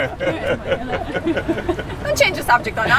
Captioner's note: people laugh